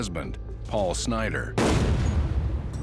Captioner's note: gun shot